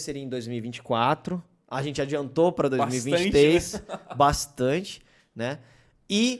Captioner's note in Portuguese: risos